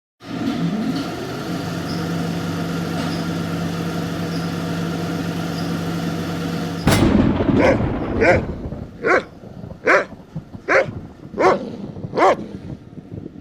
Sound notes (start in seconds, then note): 1.0 camera whirring; 6.8 thunder rumbling; 7.1 dog barking